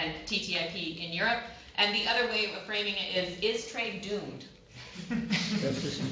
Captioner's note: laughter